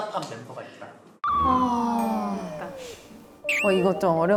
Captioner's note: sighing